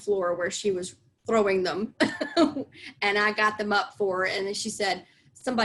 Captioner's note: laughs